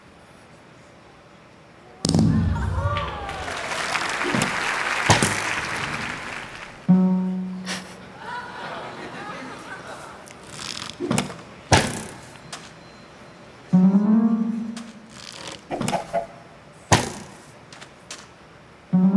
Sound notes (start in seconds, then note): 6.0 cheering; 6.5 applause